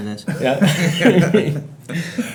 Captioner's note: people laughing